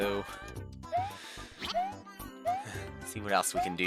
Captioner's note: breathing